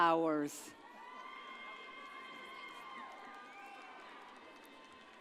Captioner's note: audience cheers